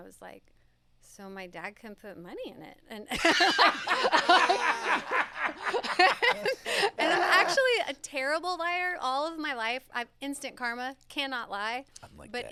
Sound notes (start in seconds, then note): 3.1 laughs